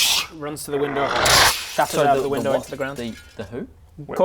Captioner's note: tsssch